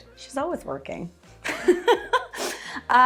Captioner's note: chuckles